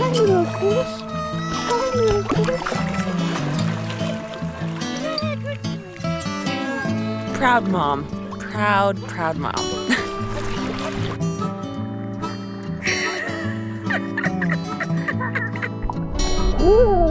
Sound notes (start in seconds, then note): 10.2 gentle guitar music continues; 12.8 laughing